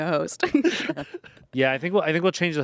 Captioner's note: everyone laughs